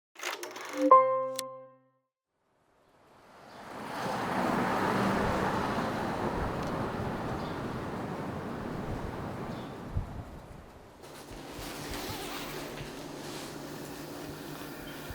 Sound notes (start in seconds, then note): 0.8 bell music; 3.5 car whooshes